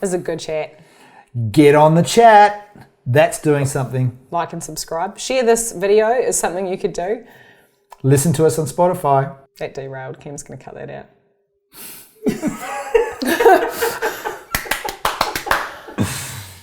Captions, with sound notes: This is a good chat. - Get on the chat, that's doing something. - Like and subscribe. Share this video, is something you could do. - Listen to us on Spotify. - That derailed, Cam's gonna cut that out. (all laugh) (hands clap)